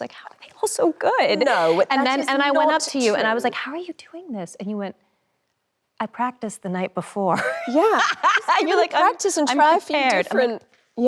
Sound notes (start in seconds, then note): 7.5 laughs